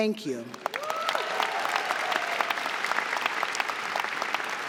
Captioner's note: audience clapping